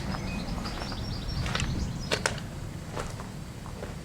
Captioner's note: stepping on Rocks